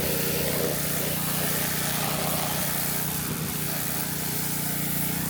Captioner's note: spray hissing continues